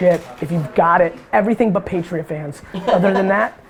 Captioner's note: laughs